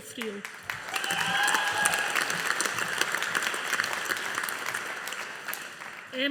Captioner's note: audience applauding